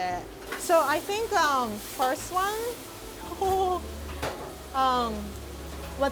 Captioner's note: chuckling